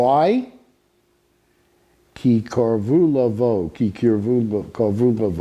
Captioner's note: speaking Hebrew